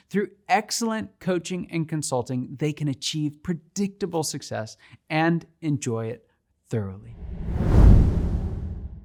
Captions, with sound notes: Through excellent coaching and consulting, they can achieve predictable success and enjoy it thoroughly. (dramatic whooshing)